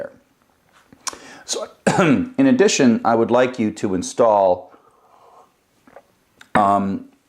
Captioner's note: cough